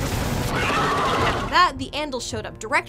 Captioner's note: dragon screeches